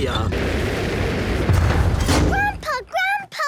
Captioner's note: thuds